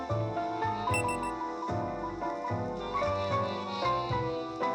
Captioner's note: phone beeps